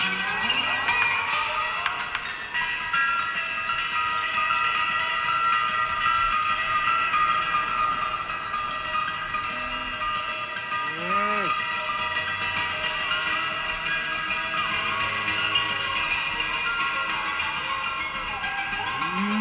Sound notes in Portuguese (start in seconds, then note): 0.2 Ruídos instrumentais; 11.3 Mujido de vaca; 11.3 Ruídos instrumentais; 13.9 Ruídos instrumentais